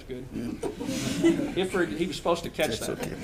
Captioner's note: audience giggles